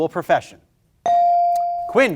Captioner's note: bell ringing